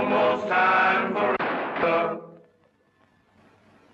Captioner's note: gunshot